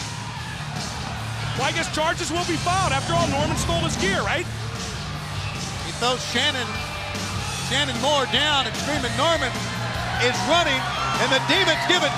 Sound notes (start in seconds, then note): 1.5 crowd chatter